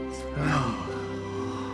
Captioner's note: Florio exhales